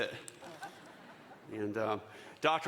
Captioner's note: audience chuckling